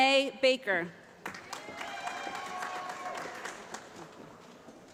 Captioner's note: applause